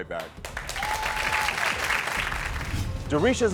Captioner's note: audience cheering